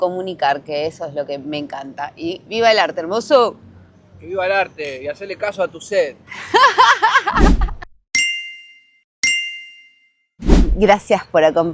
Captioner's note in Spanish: risas